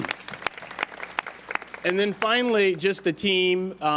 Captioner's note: applause